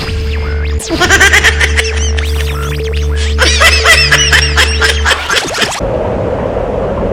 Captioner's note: evil laughter